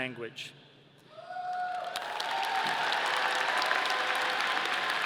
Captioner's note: audience applauding